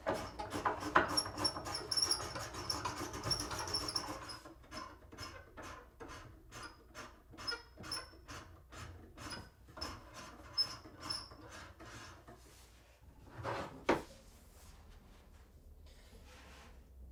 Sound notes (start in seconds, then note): 0.3 tool squeaking; 4.9 tool squeaking